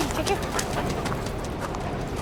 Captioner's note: dog panting